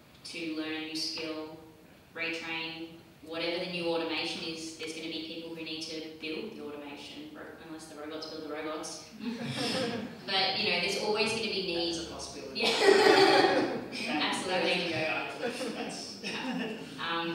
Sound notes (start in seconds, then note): 9.3 audience laughs; 12.6 laughs